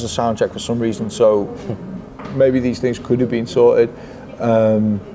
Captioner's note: chuckles